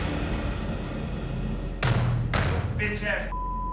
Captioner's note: stomping